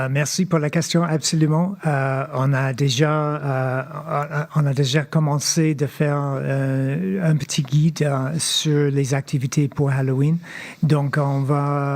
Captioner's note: speaking French